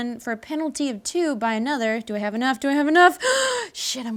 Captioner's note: gasps